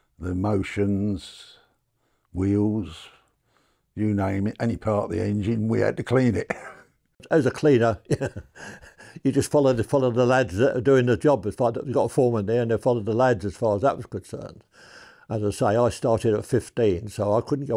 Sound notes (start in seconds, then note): 8.0 laughs